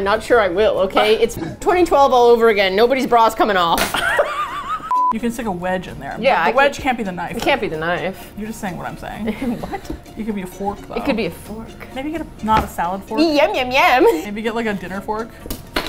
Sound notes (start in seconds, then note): 3.9 laughs; 9.3 indignant